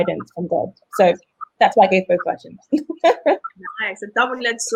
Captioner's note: laughs